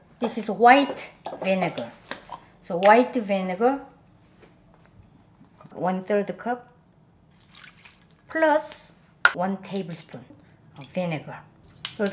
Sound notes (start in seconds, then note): 7.3 liquid sloshing